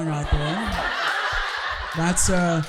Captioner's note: audience laughing